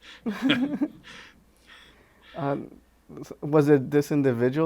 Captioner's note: chuckles; interviewer laughs